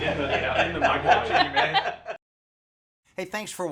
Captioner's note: laughter